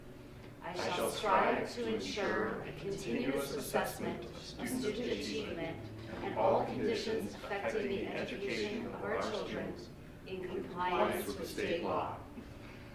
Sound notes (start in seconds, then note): none